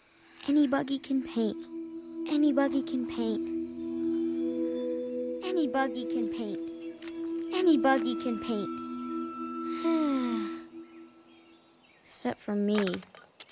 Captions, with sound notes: ANYBUGGY CAN PAINT... ANYBUGGY CAN PAINT... ANYBUGGY CAN PAINT... ANYBUGGY CAN PAINT... (SIGHS) EXCEPT FOR ME.